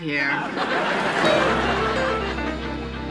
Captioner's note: laughter